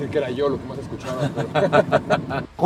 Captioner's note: laughter